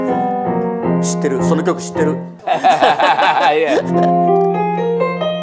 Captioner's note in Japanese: 笑い